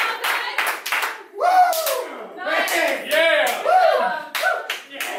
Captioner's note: clapping and cheering; cheering